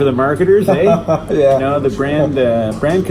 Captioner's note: laughs